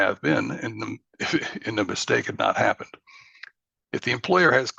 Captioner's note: laughs